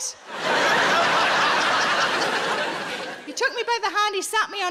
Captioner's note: audience laughing